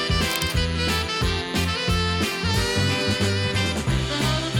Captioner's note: camera snapping